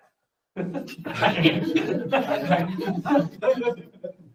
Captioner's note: laughter